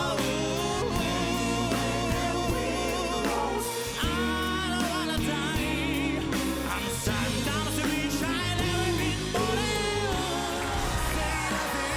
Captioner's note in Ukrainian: оплески